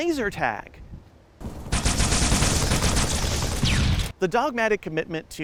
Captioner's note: pew pew pew pew boom